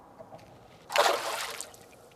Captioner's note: splash